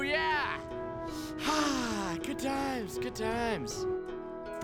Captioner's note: sighs